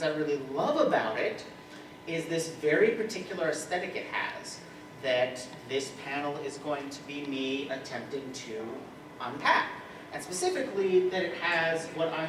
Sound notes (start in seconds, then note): none